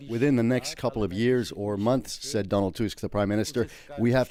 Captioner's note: speaking alternate language